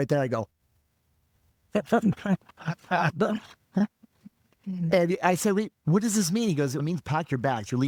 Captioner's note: laughing